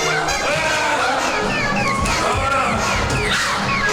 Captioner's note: Chooper screaming; eerie music